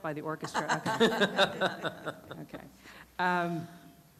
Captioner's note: laughter